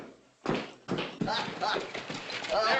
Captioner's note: hoppy chuckles